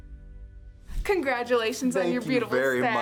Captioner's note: logo whooshes